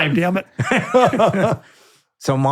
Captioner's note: both laughing